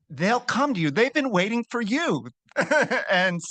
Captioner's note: laughs